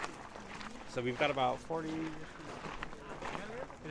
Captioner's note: American voice